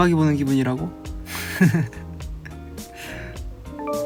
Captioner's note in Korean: 웃음